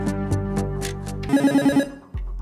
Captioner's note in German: Buzzer